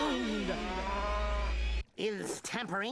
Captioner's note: cow mooing